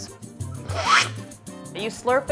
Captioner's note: slurping